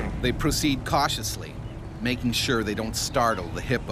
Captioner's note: voiceover